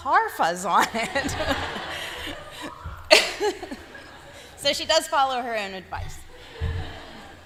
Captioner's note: laughter; laughter